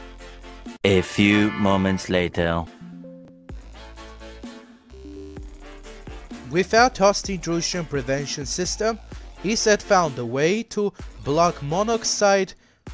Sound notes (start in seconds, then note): 2.7 Windows 11 Background Sound; 2.8 Windows 11 Error Sound